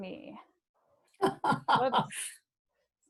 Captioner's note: laughs